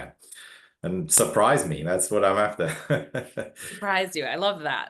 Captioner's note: chuckles